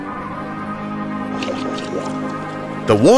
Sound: gurgling

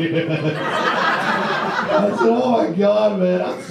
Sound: audience laughs

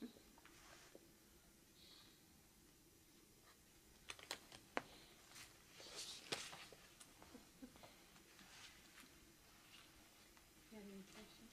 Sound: laughter

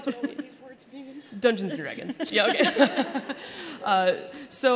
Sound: laughing

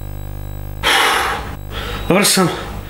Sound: exhalation

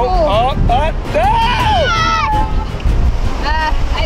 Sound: screaming

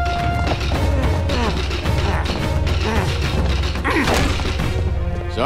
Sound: grunting

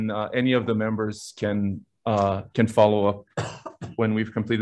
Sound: coughing

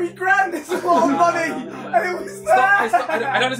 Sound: all chattering

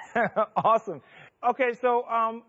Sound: chuckles

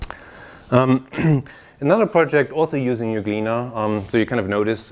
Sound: cough

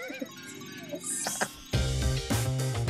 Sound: laugh

